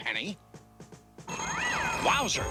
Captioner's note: telephone rings